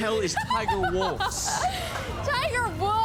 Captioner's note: laughing